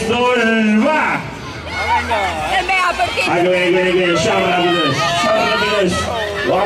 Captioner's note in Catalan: La gent del públic fa renou